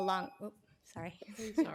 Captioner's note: tone